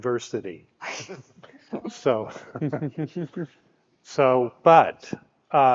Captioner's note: speakers laughing